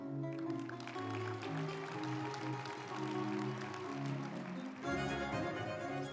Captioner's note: uplifting music; group applauding